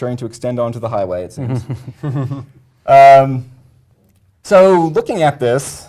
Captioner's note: laugh